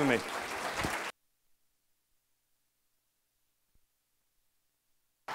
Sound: audience applauding

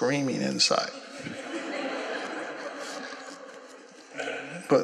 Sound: laughter

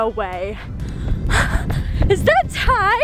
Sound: gasps

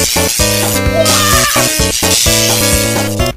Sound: screams!

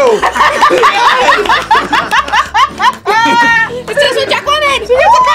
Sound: all laughing

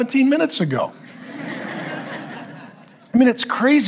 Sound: congregation laughing

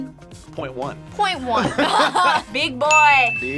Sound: laughs

